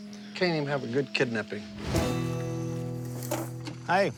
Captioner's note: crickets chirping